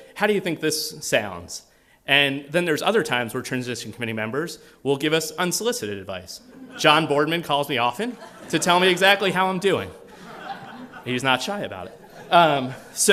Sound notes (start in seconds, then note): 10.0 laughter